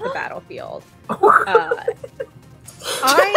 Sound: laughter and gasps

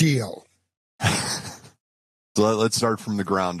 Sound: laughs

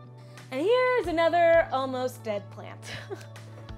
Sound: chuckles

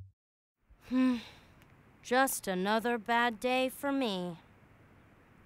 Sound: sigh

